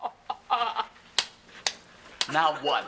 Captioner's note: Ethan laughing; Ethan claps hands